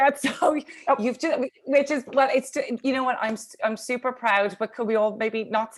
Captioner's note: stammers